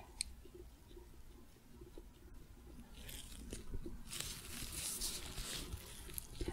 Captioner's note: light tapping, glove sounds